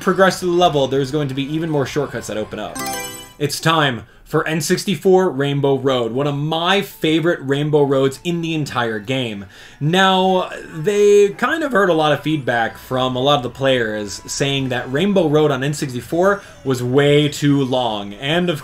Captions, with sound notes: progress to the level there's going to be even more shortcuts that open up. [Mario Selection Sound] It's time for N64 Rainbow Road, one of my favorite Rainbow Roads in the entire game. Now they kind of heard a lot of feedback from a lot of the players saying that Rainbow Road on N64 was way too long. And